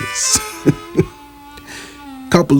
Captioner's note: chuckles